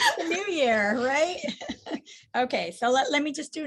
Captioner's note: laughs